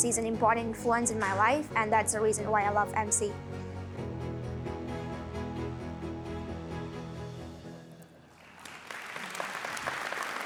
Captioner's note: applause